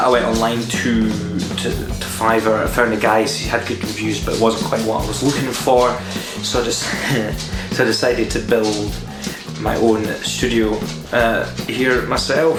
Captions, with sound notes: I went online to Fiverr. I found a guy who had good reviews but it wasn't quite what I looking for... so I *laughs* decided build my own "studio" here myself